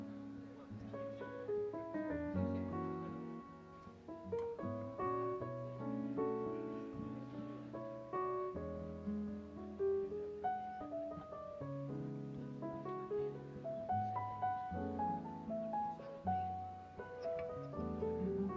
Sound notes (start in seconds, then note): 2.4 guests murmuring; 3.4 light piano music continues